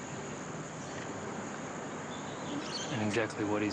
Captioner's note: birds chirp